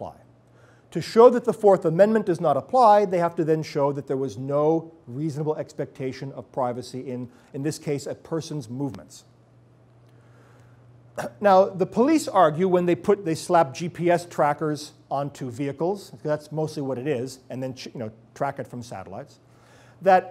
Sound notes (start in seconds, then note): 9.3 cough